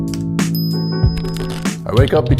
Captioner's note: keyboard typing; electronic ding